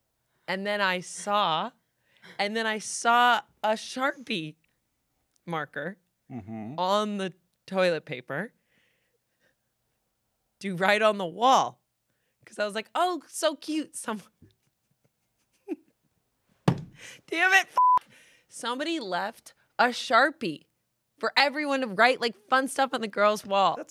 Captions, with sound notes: And then I saw, and then I saw a Sharpie marker on the toilet paper. To write on the wall. 'Cause I was like, "Oh, so cute. "Someone..." (laughs) Damn it, (beep) Somebody left a Sharpie for everyone to write like fun stuff on the girl's wall.